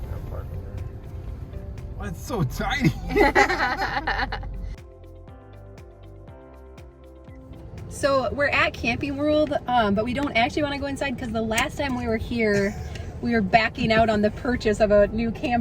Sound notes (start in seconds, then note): 2.8 both laughing; 5.1 upbeat music